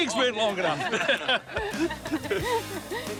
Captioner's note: all laugh